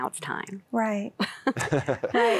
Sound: laughter

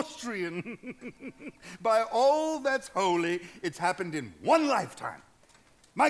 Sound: laughs

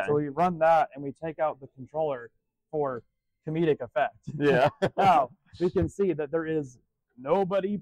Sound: laughs

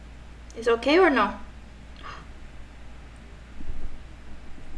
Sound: gasps

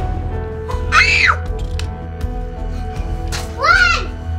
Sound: shrieks

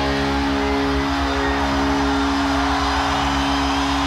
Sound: audience cheering

